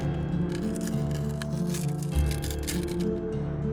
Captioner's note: bone cracking